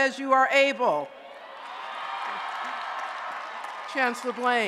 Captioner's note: applause and Cheering